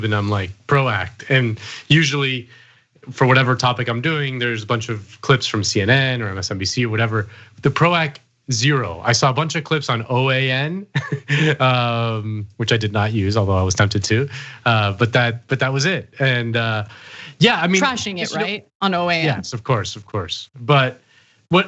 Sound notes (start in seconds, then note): 10.9 laugh